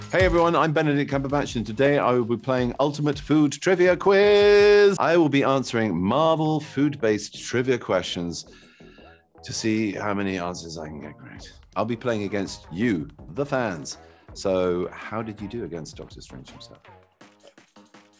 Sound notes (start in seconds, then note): none